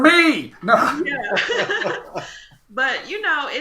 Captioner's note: happy laughter